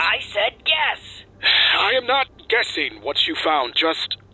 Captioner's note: sigh